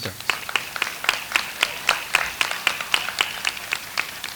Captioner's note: audience applauds